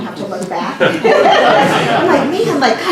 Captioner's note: laugh